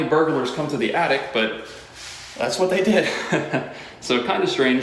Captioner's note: chuckle